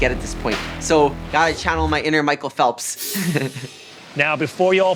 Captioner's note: laughs